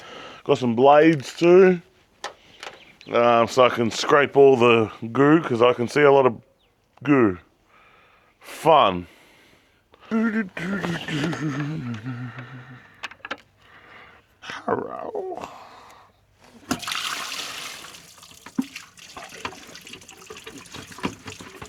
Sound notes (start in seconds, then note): 10.4 humming; 16.5 water splashing